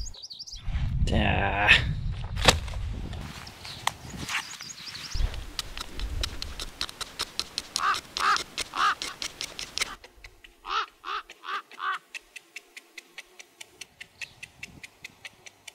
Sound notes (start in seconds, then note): 10.0 ravens calling; 12.1 chiseling noise